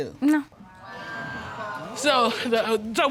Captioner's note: audience exclaiming